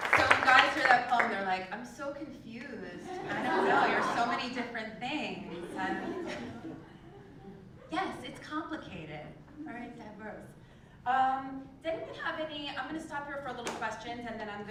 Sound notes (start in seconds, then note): 3.1 laugh; 5.5 laugh